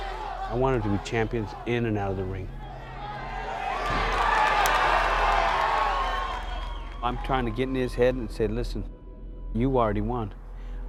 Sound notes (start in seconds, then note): 0.0 crowd yelling; 4.1 crowd cheering